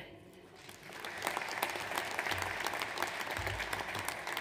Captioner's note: audience applauds